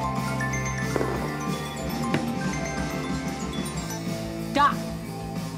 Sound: cell phone melody

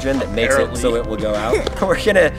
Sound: laughs

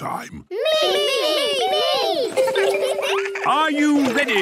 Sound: laughter

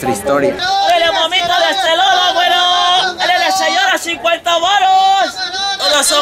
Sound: screaming in Spanish

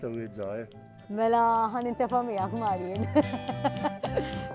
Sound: laughs

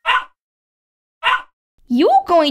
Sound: bark!

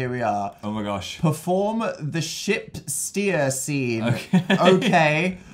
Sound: laughing

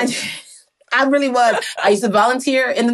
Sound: chuckles

